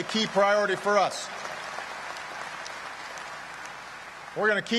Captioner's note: applause